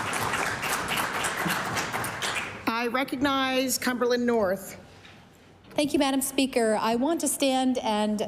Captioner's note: applause